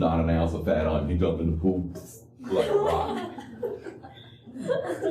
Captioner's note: laughter